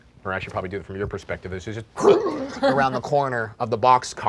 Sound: monsters growling

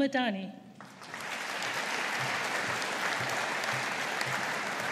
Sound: audience applauding

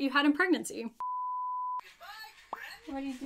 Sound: beep sound

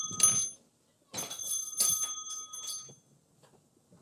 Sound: door bell jingling

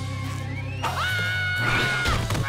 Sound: yelling

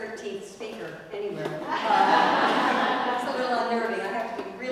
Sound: laugh

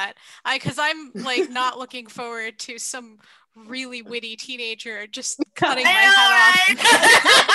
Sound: laughter

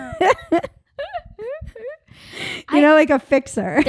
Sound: laughing

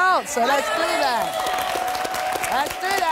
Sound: applause

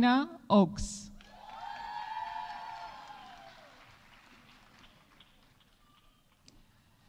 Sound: audience applauding; audience cheering

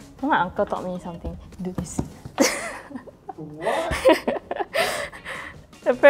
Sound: laughs

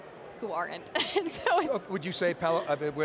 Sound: laughing

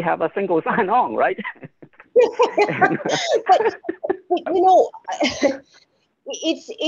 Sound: laughter

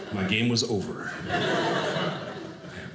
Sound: audience laughing

